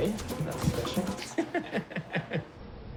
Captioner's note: laughs